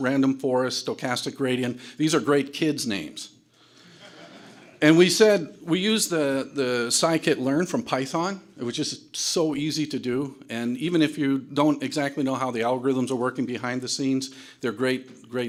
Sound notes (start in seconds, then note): 3.9 audience laughter